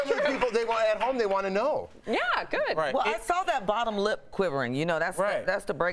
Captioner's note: laughter